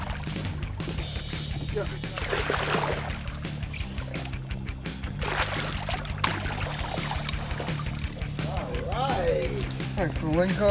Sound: fish splashing

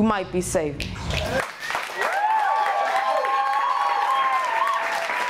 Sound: audience cheering

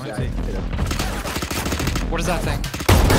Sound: guns firing

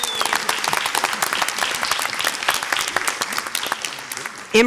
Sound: audience applauds

